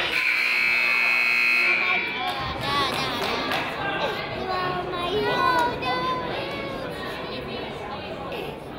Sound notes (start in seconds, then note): 0.0 buzzer honks; 0.6 person claps